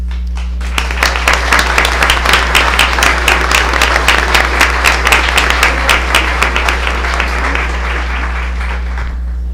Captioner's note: applause